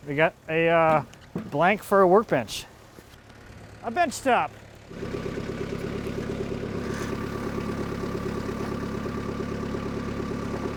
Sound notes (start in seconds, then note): 5.5 engine roars